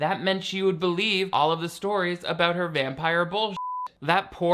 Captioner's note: beep